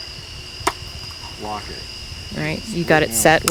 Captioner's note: box clacking